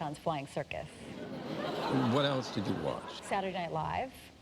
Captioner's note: laughter